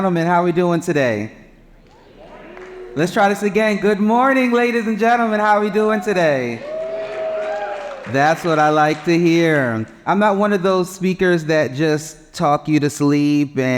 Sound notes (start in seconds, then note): 7.1 cheers